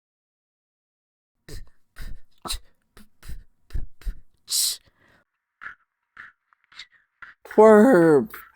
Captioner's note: beatboxing